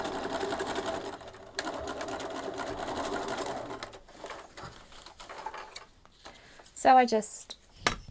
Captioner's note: sewing continues